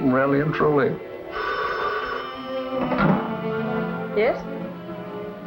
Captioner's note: phone rings